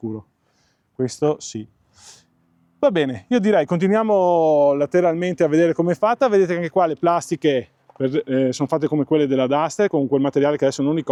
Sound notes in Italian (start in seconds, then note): 1.9 sbuffare